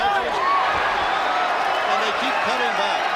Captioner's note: crowd cheering